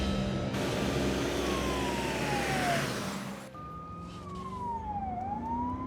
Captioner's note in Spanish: sirena de la ambulancia